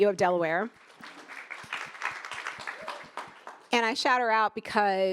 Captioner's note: attendees applauding